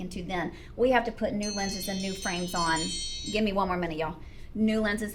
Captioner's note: timer chimes